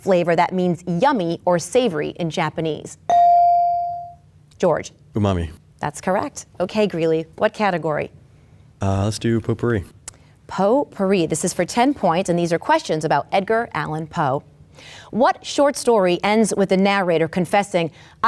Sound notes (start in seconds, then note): 3.1 bell dings